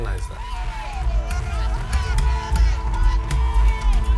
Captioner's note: protestors shouting